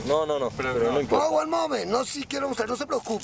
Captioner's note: speaking foreign language